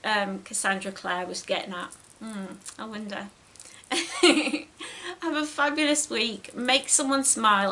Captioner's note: giggles